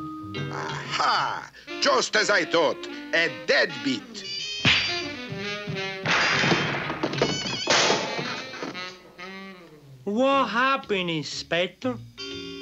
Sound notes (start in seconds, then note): 7.5 thuds